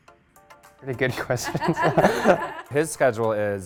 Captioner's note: chuckling